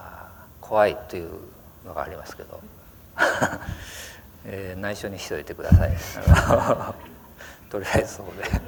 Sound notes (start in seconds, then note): 3.2 laughter